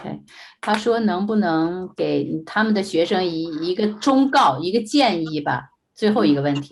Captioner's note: speaking in foreign language